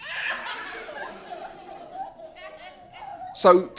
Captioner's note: children laughing